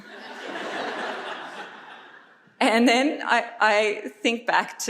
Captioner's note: audience laughs